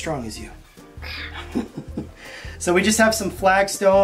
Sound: laughs

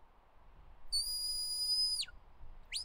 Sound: "Stop" whistle command

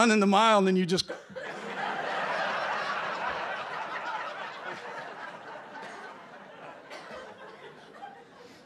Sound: laughter

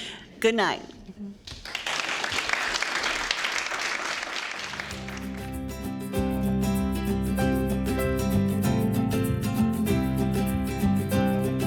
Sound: applause

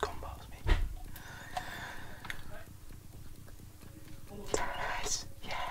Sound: whispering

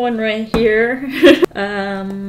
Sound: laughs

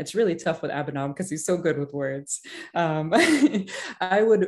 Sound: laughs

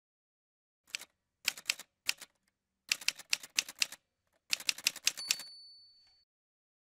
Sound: typewriter sounds

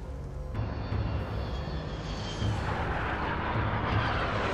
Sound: planes whirring

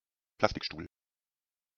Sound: fast Pronunciation

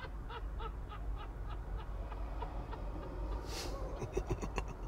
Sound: Keegan laughing off-screen; Peele laughing

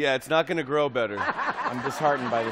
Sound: laughs

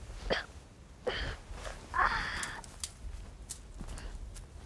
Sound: groaning

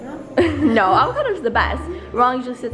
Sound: laughs

